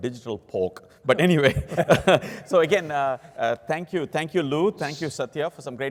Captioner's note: laugh